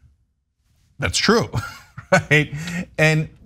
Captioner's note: laugh